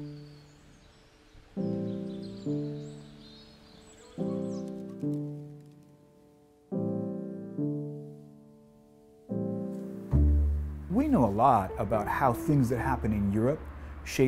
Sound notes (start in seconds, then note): 0.1 soft music; 4.6 bird wing's rattling; 6.4 soft music